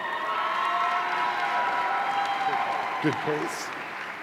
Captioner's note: audience cheering